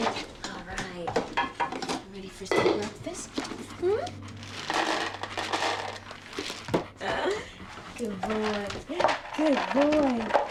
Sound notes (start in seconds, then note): 4.3 max panting